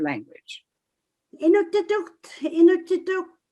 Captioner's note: speaking in Inuktitut